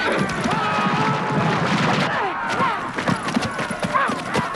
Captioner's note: horse hooves pounding